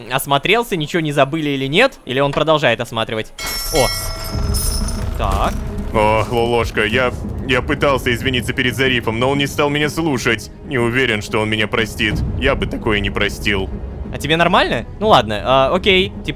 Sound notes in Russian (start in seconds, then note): 3.4 Звук корабельного колокола